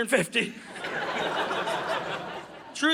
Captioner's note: audience laughing